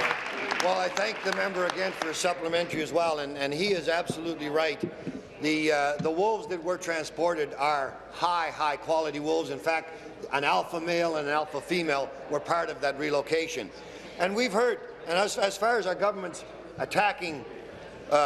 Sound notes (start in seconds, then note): 1.9 applause